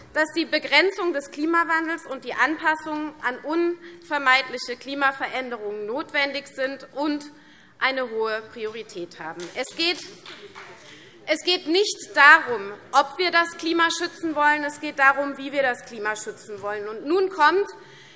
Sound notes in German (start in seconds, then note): 10.0 Beifall